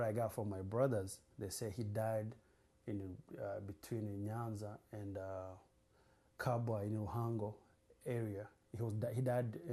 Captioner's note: non-english